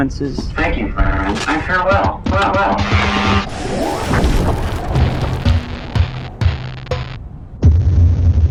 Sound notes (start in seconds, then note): 2.8 schhhhhvrrrrrrssss; 3.8 portal destruction noises; 7.5 impact sound